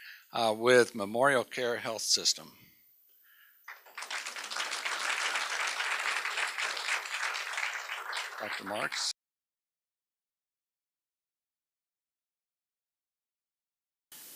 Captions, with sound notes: WITH MEMORIALCARE HEALTH SYSTEM. [APPLAUSE] DR. MARKS. [ SILENCE ]